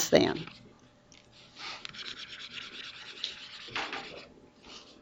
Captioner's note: mouse scribbles